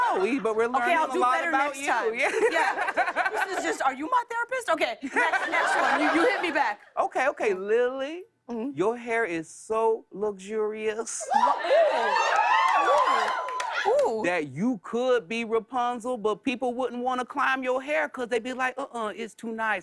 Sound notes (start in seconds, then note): 2.2 laughter; 11.3 cheers